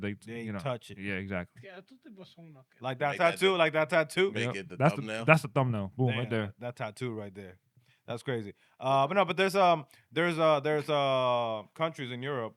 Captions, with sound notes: they-- They ain't touching. Yeah, exactly. (Speaking In Foreign Language) Like that tattoo, like that tattoo? Make it the thumbnail. That's the thumbnail, boom, right there. That tattoo right there, that's crazy. But no, but there's countries in Europe